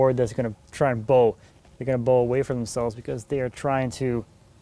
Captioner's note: none